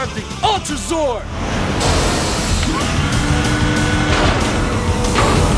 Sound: whirring

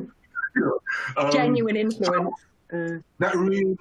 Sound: chuckles

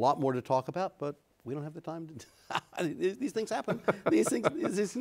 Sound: laughs

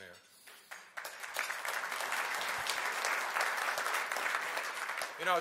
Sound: applause

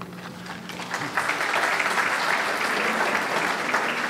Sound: audience clapping

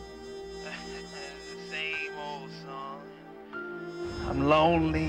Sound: on phone

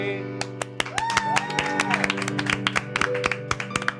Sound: all cheering

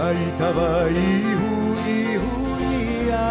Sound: none

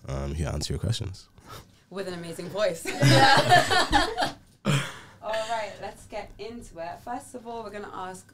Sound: all laugh

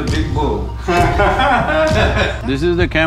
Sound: laughter

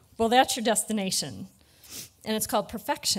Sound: none

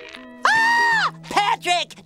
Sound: screams

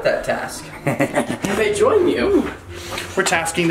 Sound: laughing

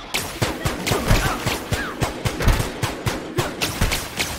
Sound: gunshots; grunting

